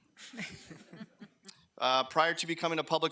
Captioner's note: people laughing